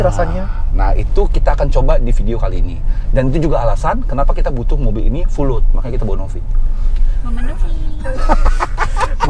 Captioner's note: laughing